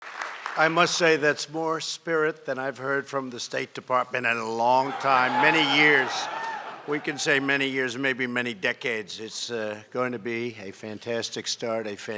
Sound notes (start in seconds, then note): 5.0 laughter